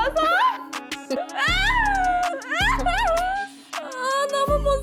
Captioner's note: sobbing because she hates wiping it off